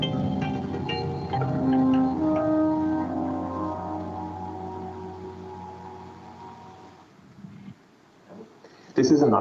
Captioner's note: beeping